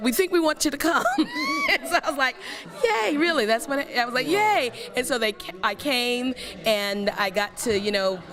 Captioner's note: laugh